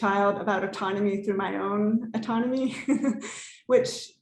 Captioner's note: laughs